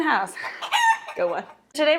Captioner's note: chicken clucks